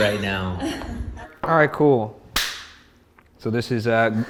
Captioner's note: claps hands